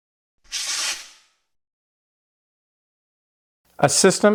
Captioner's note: screen whooshing